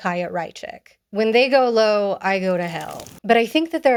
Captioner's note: flames crackle